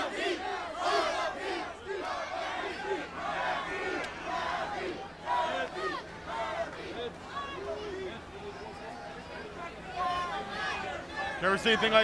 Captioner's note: crowd chatter